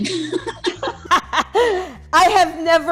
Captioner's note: laughs